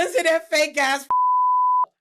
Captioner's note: beep